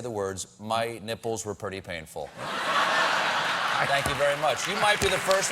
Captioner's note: cheers and applause